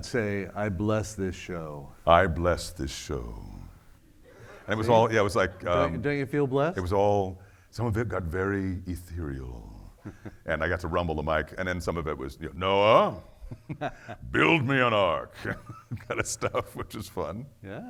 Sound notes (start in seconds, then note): 4.3 audience laughing; 10.0 laughing; 15.3 laughing; 15.3 laughs